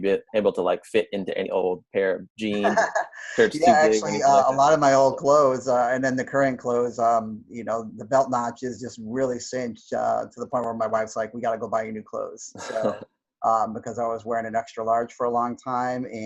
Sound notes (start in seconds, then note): 2.4 laughs